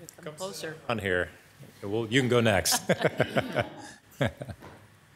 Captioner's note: laughs